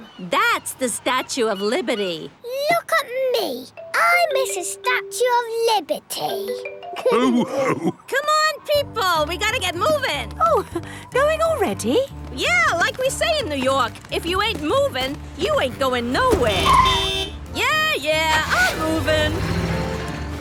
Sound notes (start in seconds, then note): 7.0 all laughing; 15.4 honking